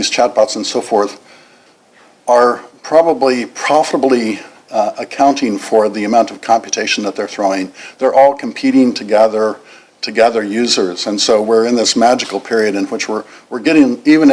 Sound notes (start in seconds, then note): none